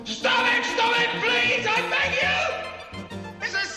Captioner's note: shouts